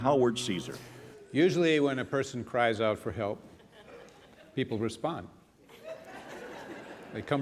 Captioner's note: laughter